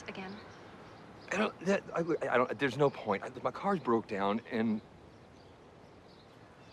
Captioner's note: stuttering